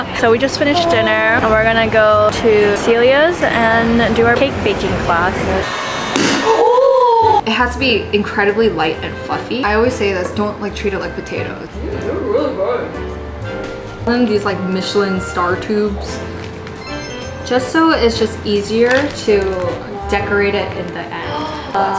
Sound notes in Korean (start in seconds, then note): 6.1 샴페인 팝!